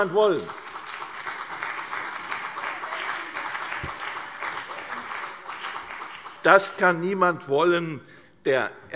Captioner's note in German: Beifall CDU und BÜNDNIS 90/DIE GRÜNEN